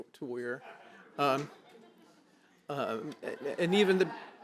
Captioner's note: laughter